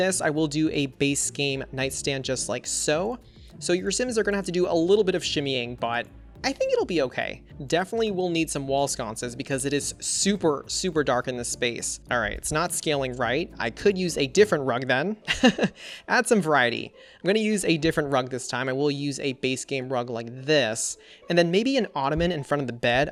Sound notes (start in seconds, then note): 15.3 laughs